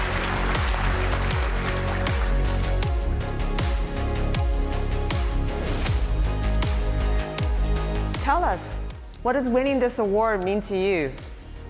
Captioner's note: applause